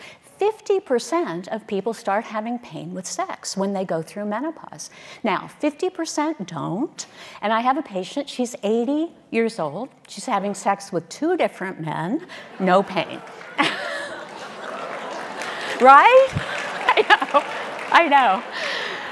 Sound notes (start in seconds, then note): 13.0 audience applauding